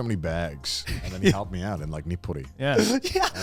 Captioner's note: speaks Japanese